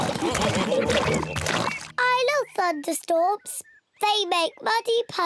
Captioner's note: oinks